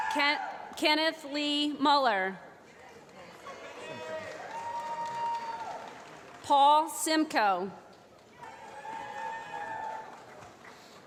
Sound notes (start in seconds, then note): 2.9 applause; 8.1 applause